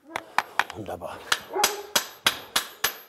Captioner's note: barking